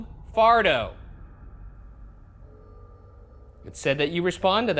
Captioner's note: room ambience